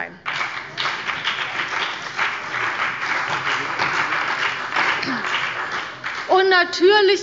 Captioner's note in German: Beifall bei dem BÜNDNIS 90/DIE GRÜNEN und der CDU